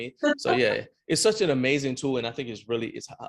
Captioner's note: laughing